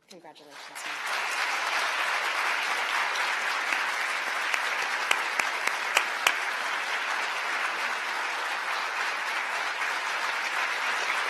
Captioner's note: applause